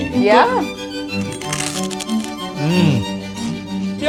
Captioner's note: fish crunching